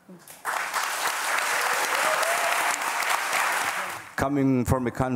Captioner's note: applause